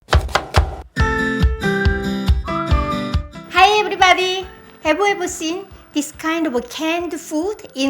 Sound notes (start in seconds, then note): 0.0 knife chopping; 0.1 upbeat happy music